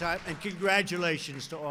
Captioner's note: applause